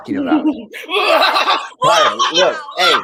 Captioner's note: Tyra cackling